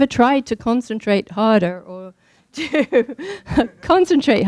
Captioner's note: laughing